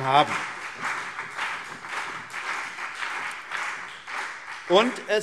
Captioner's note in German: Beifall CDU und BÜNDNIS 90/DIE GRÜNEN